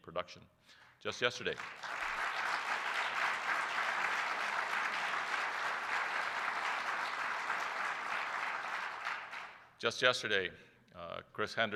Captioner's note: applause